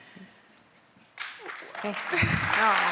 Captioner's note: applause